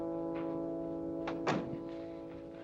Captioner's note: door closes